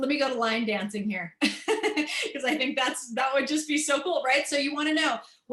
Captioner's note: laughter